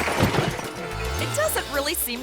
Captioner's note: glass shatters; cork pops